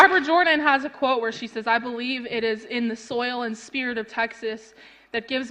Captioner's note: applause